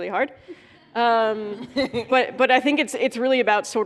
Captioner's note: laughter